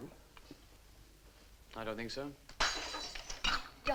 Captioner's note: glass crashes